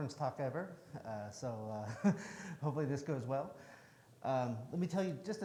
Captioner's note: chuckles